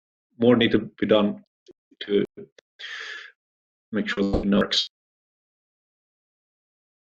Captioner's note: sound breaks up